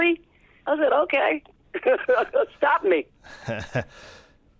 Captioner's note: laughter